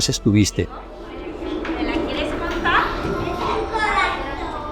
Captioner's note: children's voices